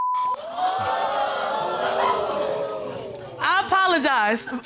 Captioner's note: audience exclaims